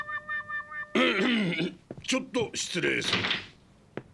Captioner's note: clears throat